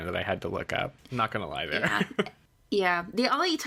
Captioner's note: laughs